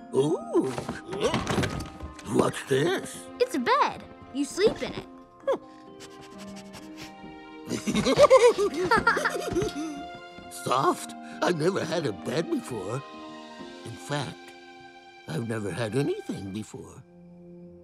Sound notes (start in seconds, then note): 7.6 both laugh